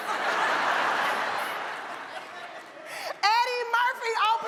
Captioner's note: audience laughs